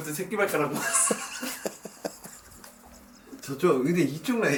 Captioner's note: big laugh